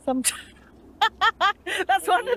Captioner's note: laughter